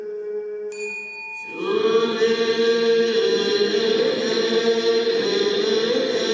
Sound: ringing of bell as chanting continues

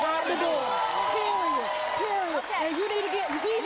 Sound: cheers

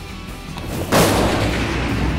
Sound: gunshot

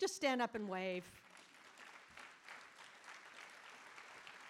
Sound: audience applauding

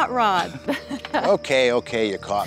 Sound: laughing

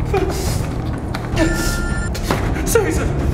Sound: Gary whimpers with pain

